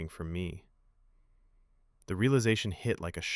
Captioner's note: pause